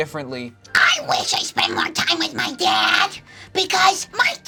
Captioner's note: screeches